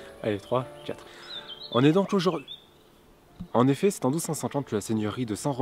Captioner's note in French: chant des oiseaux